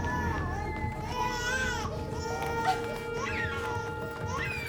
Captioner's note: baby crying